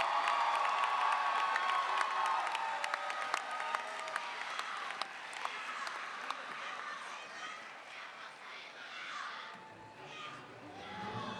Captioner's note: cheers and applause